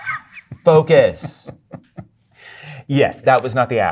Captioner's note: guy chuckles